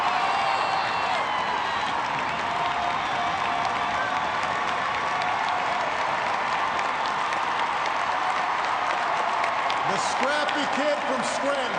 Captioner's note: cheers and applause